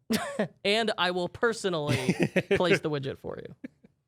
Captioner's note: laughs